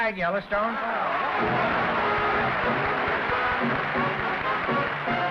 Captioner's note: applause